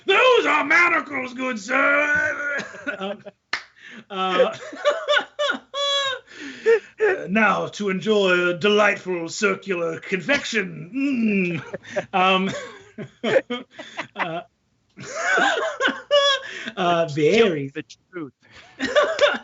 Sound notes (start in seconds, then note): 1.8 all laughing; 10.8 groans; 11.4 all laughing